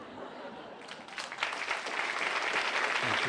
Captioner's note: applause